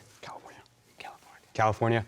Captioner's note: whispering